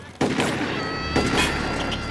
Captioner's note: shots firing